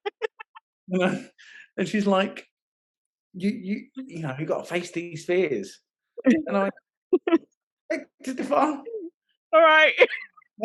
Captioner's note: laughing